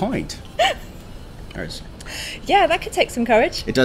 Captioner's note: laughing